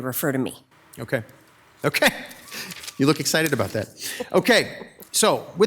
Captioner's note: laughs